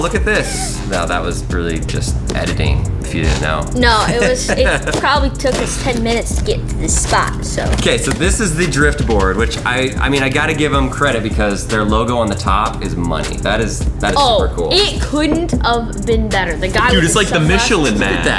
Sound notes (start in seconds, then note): 0.2 laughs